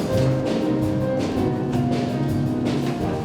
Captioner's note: none